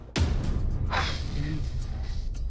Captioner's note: sighs in relief